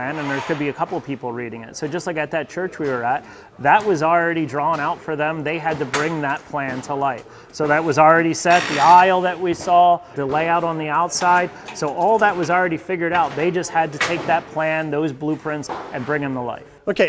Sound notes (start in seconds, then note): 8.4 tool whirring